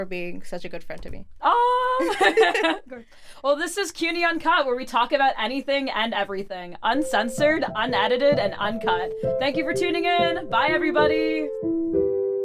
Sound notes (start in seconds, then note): 2.0 both laughing